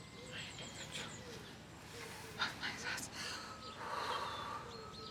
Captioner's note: whispering; exhaling